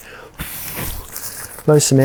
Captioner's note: blows air into the pump sack